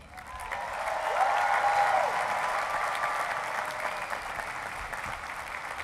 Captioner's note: cheering and applause